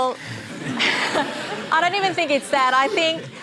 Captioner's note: laughter